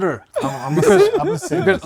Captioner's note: nerdy laughs